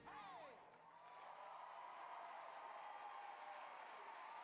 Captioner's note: audience applaud